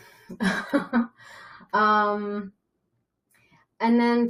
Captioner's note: laughing